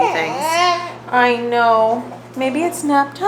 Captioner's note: baby crying